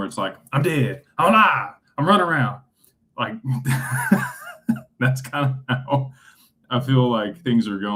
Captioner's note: laughter